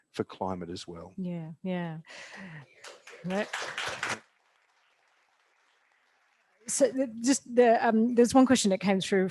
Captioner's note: applause